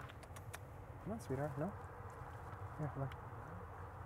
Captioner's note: kissing sounds